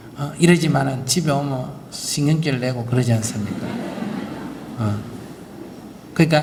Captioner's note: audience Laughter